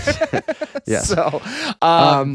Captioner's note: laughing